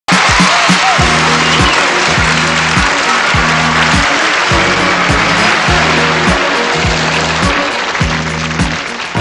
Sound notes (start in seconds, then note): 0.0 audience applauds; 0.0 upbeat music